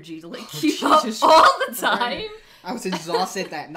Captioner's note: laughs